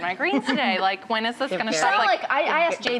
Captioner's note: laughing